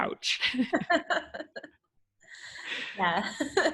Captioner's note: laughter